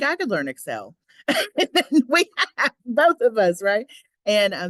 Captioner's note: laughs